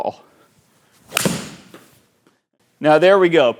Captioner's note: ball cracking